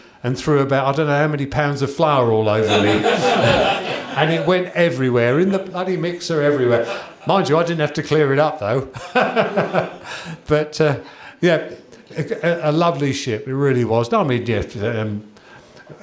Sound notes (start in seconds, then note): 2.6 laughter; 8.9 chuckles